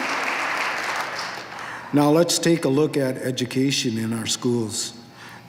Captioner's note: applause